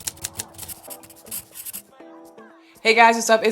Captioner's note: words click and scribble